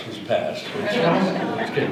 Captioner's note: audience laughter